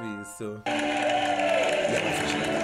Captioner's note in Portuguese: aplausos